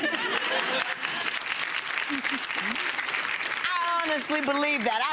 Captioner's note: people laughing and clapping